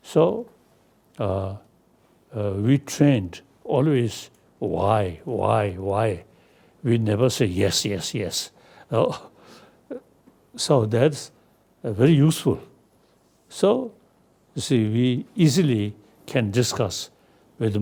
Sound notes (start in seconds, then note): none